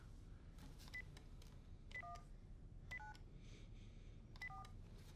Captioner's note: phone beeping